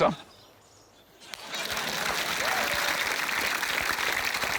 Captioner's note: applause